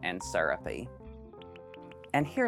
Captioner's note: graphics popping